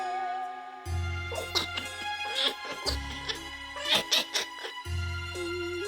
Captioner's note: brainworm larva laughs menacingly